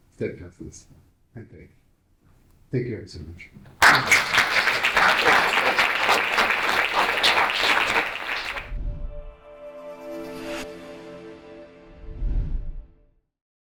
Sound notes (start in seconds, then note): 3.7 audience applauding; 9.4 bright music